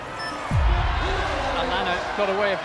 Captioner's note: device beeps; people shouting